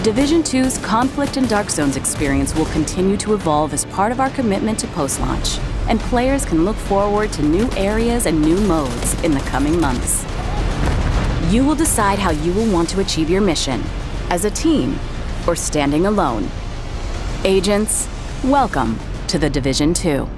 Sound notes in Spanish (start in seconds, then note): 9.4 explosión